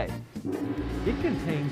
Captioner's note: gong